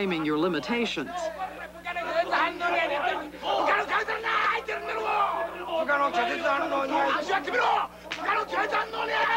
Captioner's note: men shouting instructions in Japanese